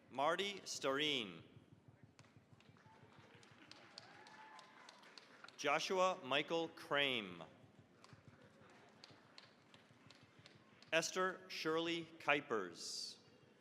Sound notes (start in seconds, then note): 2.7 cheering, applause; 8.0 applause